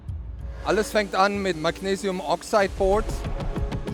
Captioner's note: German